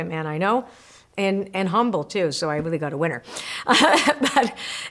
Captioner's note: laughs